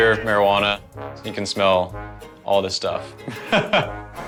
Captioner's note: chuckles; loudspeaker